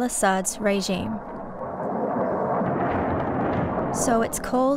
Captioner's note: noise of Jet flying